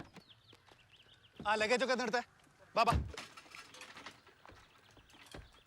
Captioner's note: speaking foreign language